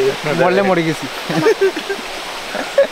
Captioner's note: laughs